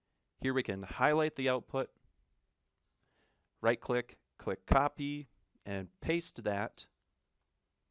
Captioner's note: right click